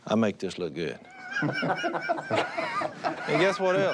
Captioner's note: laughing